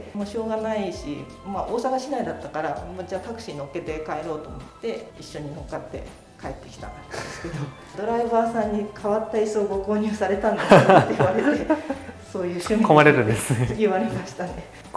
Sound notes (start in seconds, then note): 10.5 laughter; 13.6 laughs